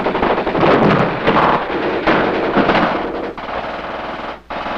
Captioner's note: guns fire; bomb explodes